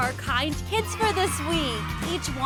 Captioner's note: cheering